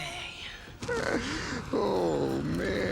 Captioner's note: Bill laughs